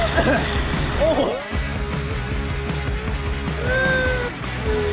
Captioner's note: laughing